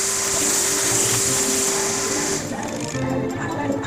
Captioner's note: vacuuming noise